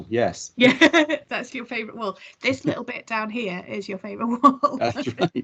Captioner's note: laughs